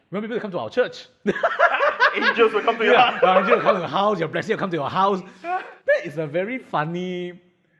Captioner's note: laughs